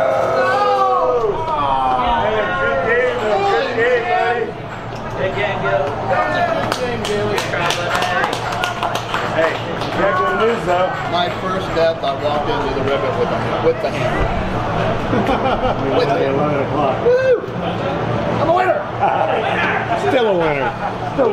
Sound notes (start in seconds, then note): 6.2 crowd applauding; 19.0 laughs